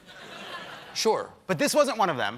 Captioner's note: laughter